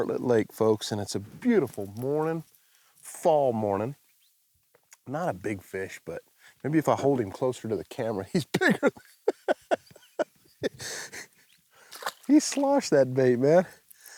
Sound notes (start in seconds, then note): 8.5 laughing